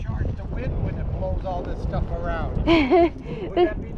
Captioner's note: laughs